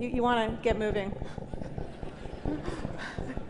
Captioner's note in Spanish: Risas